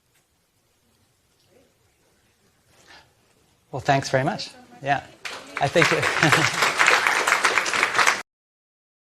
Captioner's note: applause